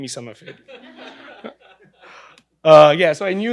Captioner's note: laughing